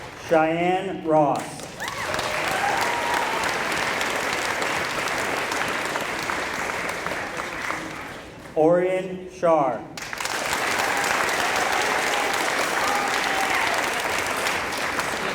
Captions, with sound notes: Cheyenne Ross [applause] Orian Shar [applause]